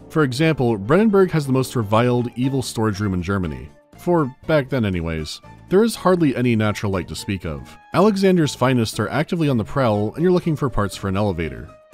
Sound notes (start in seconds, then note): none